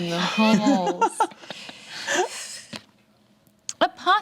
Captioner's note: group chuckles